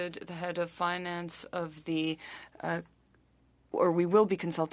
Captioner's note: speaking French